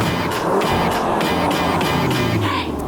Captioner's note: engine roaring